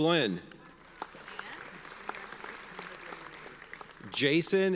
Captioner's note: audience applauds